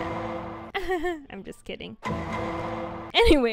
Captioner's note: fake laugh